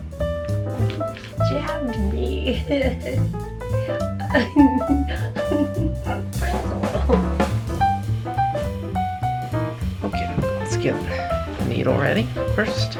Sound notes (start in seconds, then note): 0.0 jazzy music; 2.2 giggles; 3.2 jazzy music